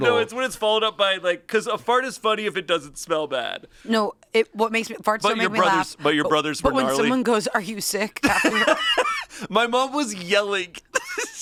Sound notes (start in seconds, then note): 8.2 laughs